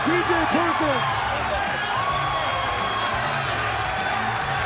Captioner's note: crowd cheering